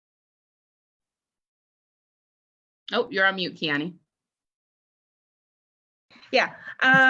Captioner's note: no sound